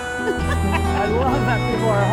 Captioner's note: laughter